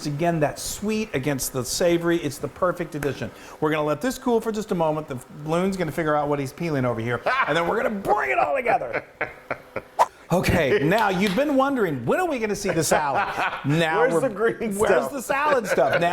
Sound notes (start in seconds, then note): 8.8 chuckling; 10.0 quick swipe; 10.8 laughing and clapping; 13.4 laughing